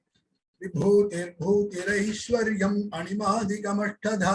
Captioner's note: chants in Sanskrit